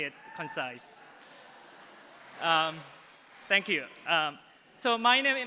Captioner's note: applause